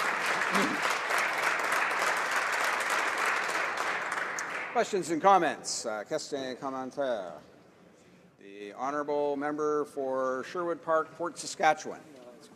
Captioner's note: applause